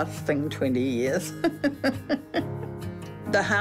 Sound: laughs

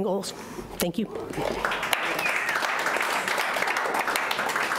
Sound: clapping

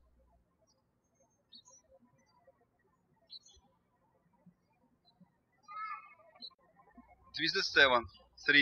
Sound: birds chirping

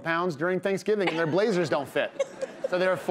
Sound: laughs

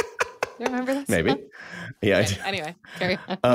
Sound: chuckles

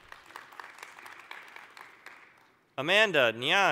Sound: applause

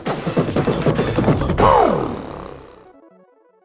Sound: beatboxing

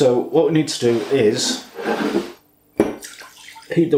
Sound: sploosh

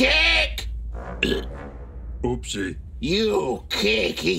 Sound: burps

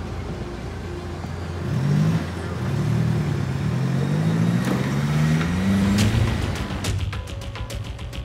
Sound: car sounds

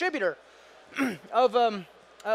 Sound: clears throat

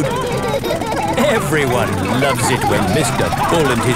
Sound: laughing

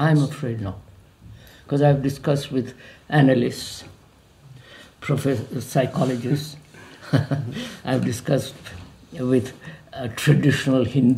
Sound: laughs

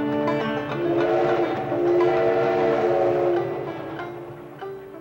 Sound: train horn whistling

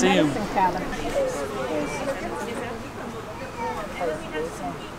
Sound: crowds talking

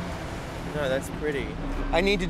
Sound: voiceover

